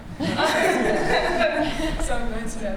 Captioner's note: laughter